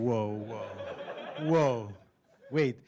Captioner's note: laughter